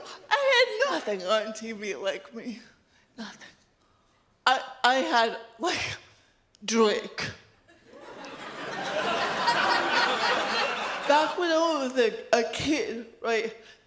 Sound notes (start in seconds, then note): 7.8 audience laughs